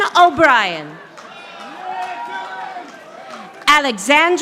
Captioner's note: audience applauding